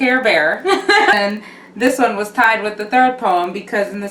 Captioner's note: laughs